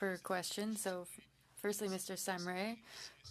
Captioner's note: speaking French